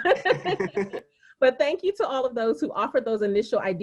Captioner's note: laughing